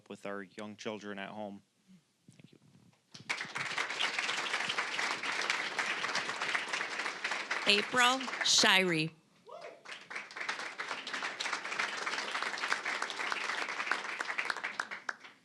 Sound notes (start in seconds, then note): 3.1 applause